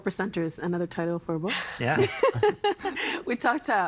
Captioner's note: laughing